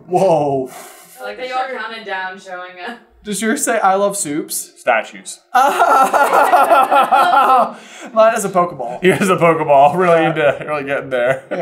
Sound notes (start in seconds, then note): 5.5 laughs